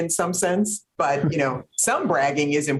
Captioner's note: chuckles